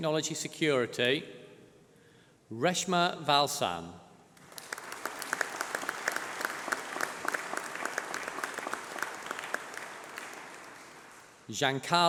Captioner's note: applause